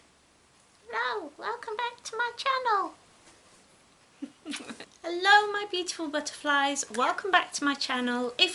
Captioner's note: giggles